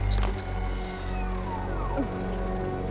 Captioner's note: winces